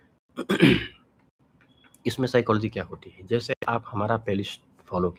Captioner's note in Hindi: गला साफ़ करने की आवाज़